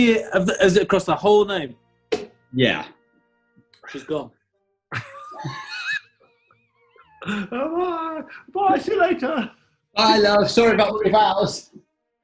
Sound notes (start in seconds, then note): 4.9 giggling